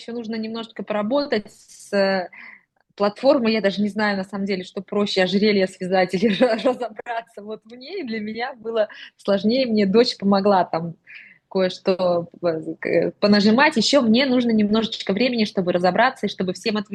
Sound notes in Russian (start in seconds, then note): 6.2 смех